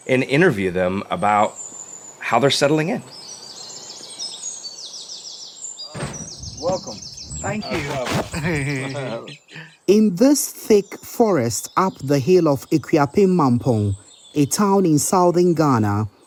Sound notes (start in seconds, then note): 3.4 birds chirping and chittering; 8.4 laugh